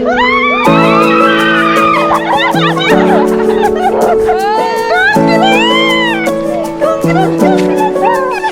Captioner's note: everyone shouting